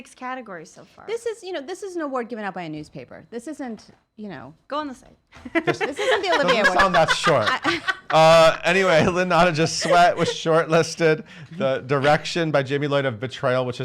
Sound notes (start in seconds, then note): 5.4 laughs